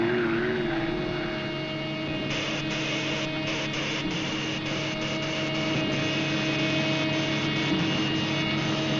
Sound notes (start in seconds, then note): 0.0 machine whirring; 2.2 electricity zapping